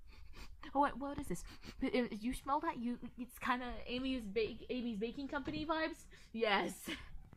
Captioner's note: sniffle sniffle mothafukkas